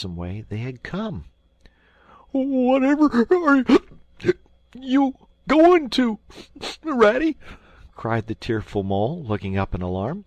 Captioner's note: hic